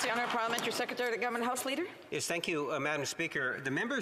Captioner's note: applause